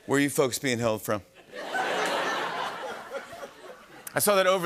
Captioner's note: laughter